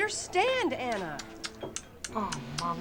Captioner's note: tsking